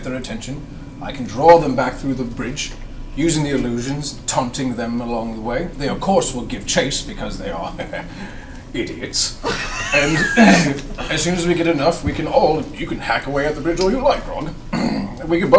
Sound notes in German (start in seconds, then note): 9.4 kichert